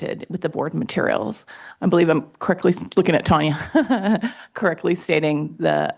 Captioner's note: laughs